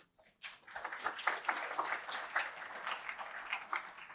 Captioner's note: applause